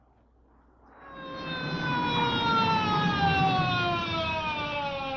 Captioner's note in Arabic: صفارات الإنذار تصرخ